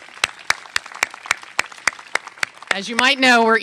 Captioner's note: applause